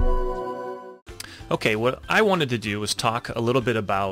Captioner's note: voiceover